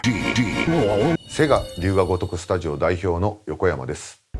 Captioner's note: speaking in Japanese